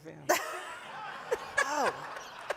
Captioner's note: audience laughing